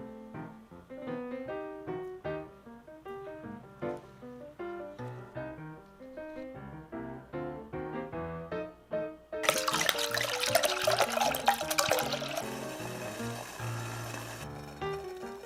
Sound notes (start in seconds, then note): 9.4 the sound of vinegar dripping